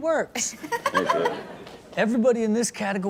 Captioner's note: Chanel and audience laugh